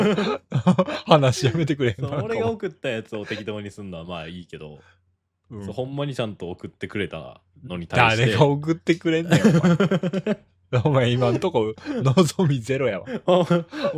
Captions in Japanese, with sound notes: [笑い] そう。俺が送ったやつを適当にすんのはまあいいけど。 うん。 そ、ほんまにちゃんと送ってくれたのに対して 誰が送ってくれんねん。 [笑い] お前今んとこ望みゼロやわ。